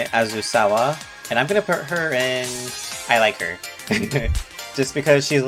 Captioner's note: chuckles